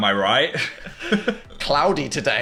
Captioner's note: both chuckle